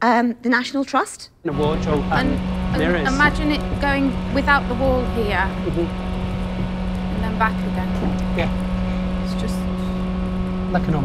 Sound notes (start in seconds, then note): 6.5 machine buzzing